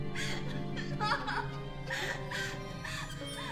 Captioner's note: sobbing